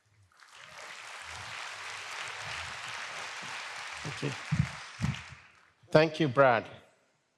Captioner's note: applause